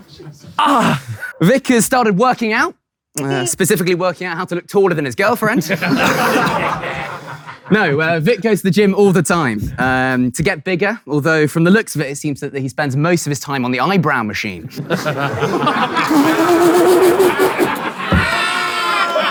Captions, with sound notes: [people in room laughing] - Ah! Vik has started working out. Specifically, working out how to look taller than his girlfriend. [people in room laughing] No, Vik goes to the gym all the time to get bigger, although, from the looks of it, it seems that he spends most of his time on the eyebrow machine. [people in room laughing] [panel laughing]